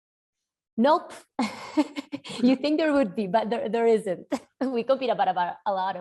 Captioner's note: laugh